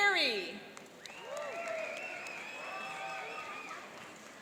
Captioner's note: cheering and applauding